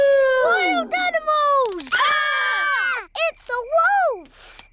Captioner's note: howling; all screaming